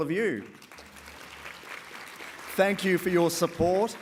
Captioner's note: applause